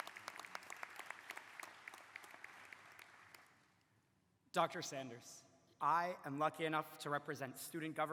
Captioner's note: applause